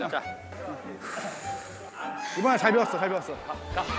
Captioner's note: Sighing